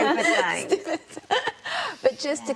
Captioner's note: laughter